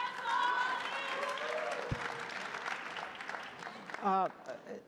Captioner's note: crowd applauding